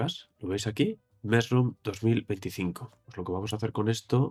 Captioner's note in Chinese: 英语